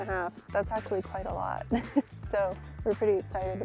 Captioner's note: chuckles